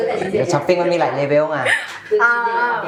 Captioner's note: laughs